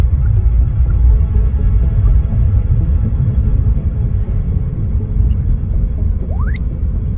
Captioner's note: pensive atmospheric music; device beeping; spaceship whooshing